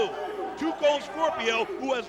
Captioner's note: crowd cheering